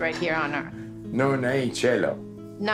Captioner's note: Dario speaking Italian